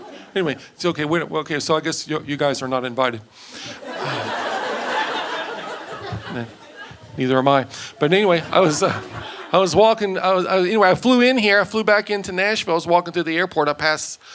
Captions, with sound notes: Anyway, so I guess you guys are not invited. (audience laughing) Neither am I, but anyway, I was walking, anyway, I flew in here, I flew back into Nashville. I was walking through the airport, I passed